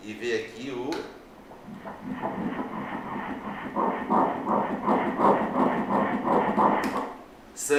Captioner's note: heart beat